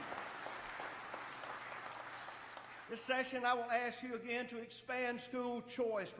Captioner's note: applause